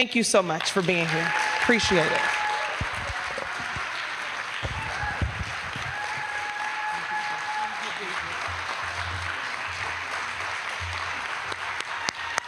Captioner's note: applause